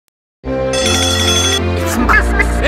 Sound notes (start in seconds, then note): 0.7 alarm ringing